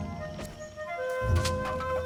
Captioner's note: dull thud; log landing in brush